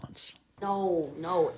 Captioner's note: soundbite of tv show, "better things"